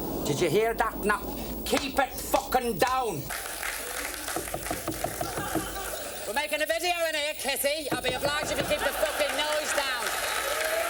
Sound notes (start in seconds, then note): 3.2 audience clapping; 4.3 Lily knocks on door